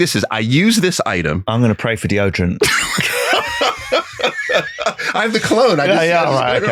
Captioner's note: laughing